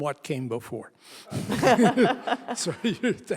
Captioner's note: all laugh